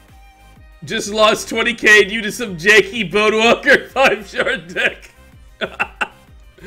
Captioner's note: laughs